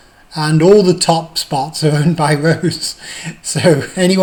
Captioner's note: laughs